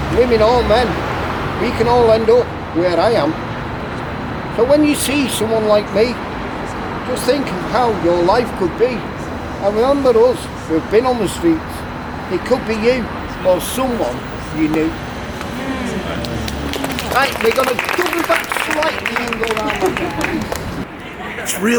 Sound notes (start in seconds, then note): 14.6 crowd clapping